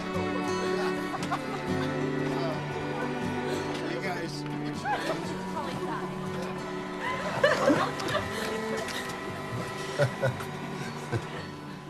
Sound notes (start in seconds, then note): 0.6 laughter; 3.9 PEOPLE CHATTERlNG